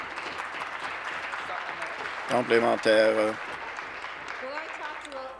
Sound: voice trailing; applause

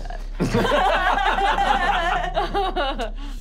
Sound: laughing

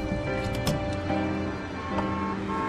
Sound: street noises, cinematic music; car door opening

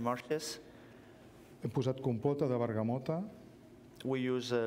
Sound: speaking catalan

